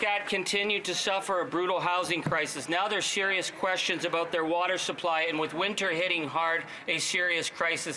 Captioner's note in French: voix de l'interprète